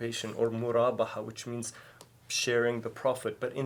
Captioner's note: speaking in foreign language